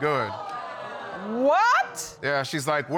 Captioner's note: audience exclaiming